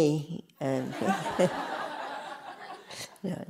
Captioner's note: laughter